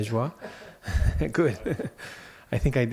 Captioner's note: laughter